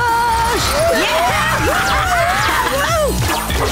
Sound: cheering

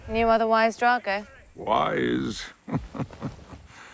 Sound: chuckles

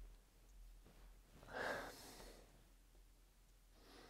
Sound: another frustrated breath out; breathes in through nose

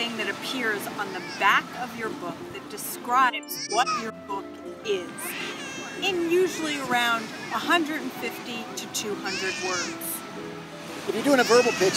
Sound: baby crying

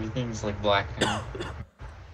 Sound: coughing

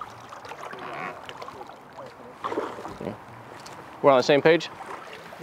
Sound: water gently splashing

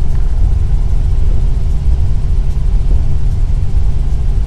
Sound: sounds of rockslide growing into massive rumble; helicopter flight sound

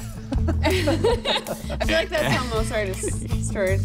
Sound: laughter

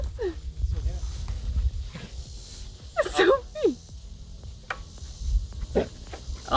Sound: laughing

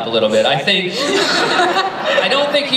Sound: laughter

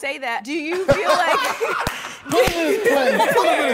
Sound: challengers laugh

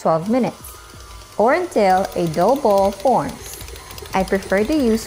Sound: mixer running

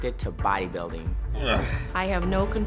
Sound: grunts

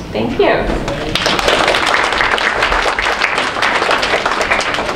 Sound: group applauds

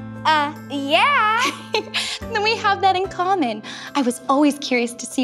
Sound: giggles

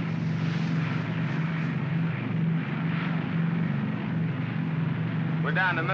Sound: aircraft rumbles

